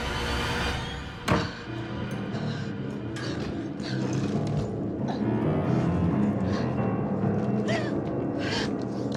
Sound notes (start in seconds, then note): 0.9 musique dramatique; 5.8 doux sanglots